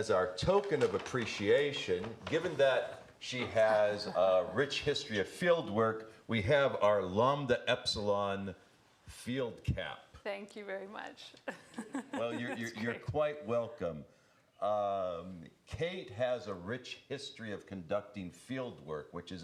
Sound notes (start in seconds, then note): 11.4 laughing